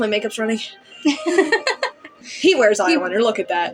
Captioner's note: laugh